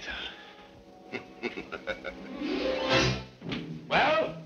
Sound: Ivan laughing

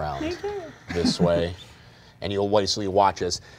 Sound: laughing

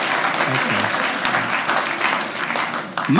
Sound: audience cheers

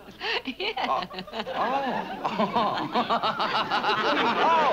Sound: laughing

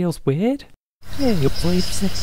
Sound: rewind sound again

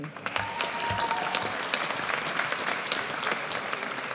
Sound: audience cheers

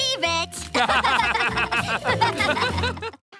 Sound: laughing

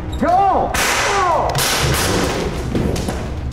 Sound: voiceover; gun fires

